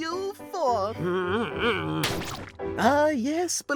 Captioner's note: paintbrush grumbles